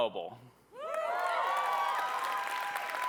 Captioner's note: cheering